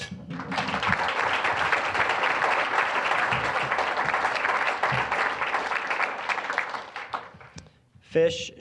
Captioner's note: applause